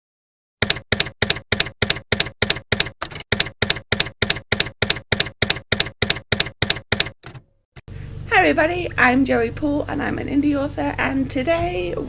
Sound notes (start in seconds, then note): 0.6 typewriter keys clacking